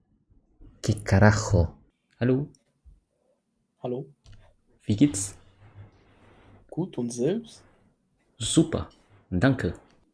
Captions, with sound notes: Wtf?? How are you? (German) Good and you? I’m really good, thankyou!